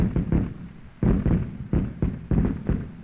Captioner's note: continuous explosions